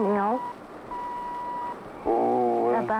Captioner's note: machine beeping